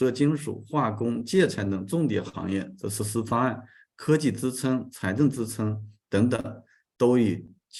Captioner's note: continues to speak in Chinese